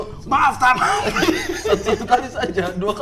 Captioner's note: giggling